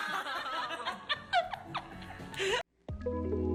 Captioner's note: laughter; lofi hip-hop playing